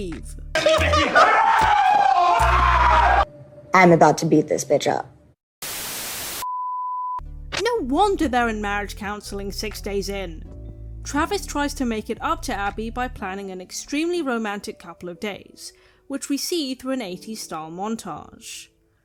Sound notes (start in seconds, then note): 0.6 laughing turns into screaming; 5.6 static